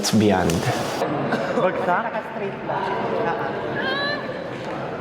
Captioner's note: background chatter